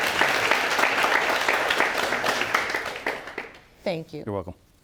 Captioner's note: applause